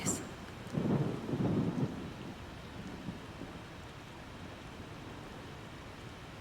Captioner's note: rain and thunder in the background